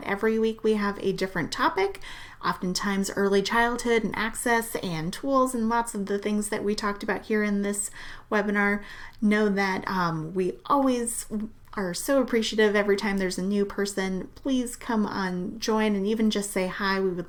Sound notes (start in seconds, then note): none